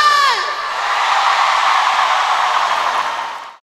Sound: ovacin

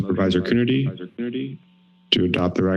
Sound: speaker feedback

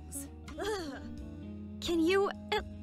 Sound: KOTONOHA shivers

